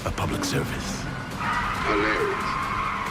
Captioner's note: tires squealing